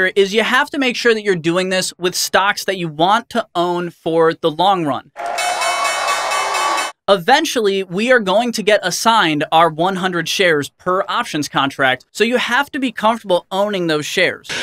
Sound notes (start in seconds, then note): 5.1 crowd cheering; 5.2 bell ringing